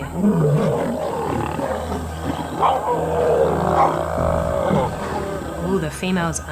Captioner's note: roars